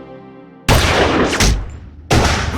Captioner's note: gunshot